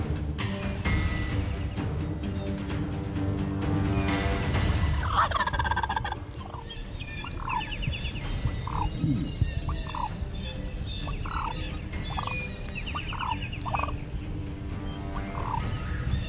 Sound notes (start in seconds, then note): 5.2 turkeys gobble